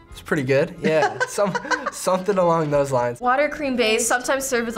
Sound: laughs

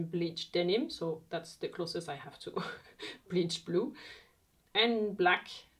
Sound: chuckles

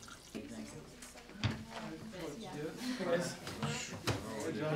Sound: students talking loudly

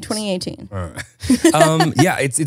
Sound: both laugh

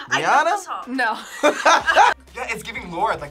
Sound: laughs

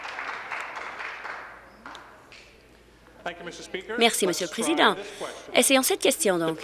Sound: applause

